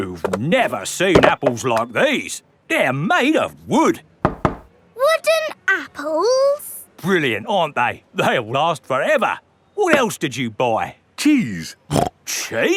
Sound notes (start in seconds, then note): 4.2 knocks; 11.9 snorts